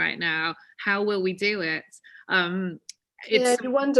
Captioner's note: audio distorted